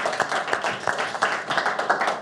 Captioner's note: audience clapping